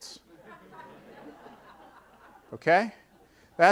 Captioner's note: audience laughing